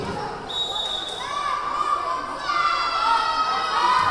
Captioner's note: whistle blowing; yelling